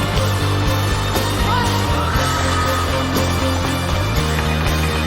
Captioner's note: crowd screaming